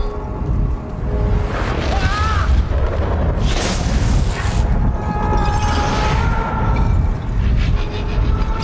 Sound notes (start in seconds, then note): 2.5 electricity crackling; 7.2 screams